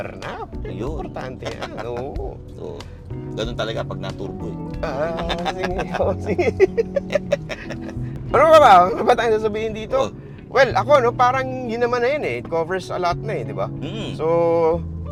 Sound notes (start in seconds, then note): 4.8 laughs